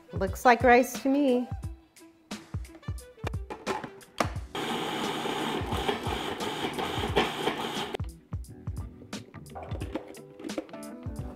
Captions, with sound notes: It looks like rice to me. (food processor revving) (mellow music)